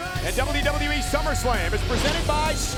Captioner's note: graphics whooshing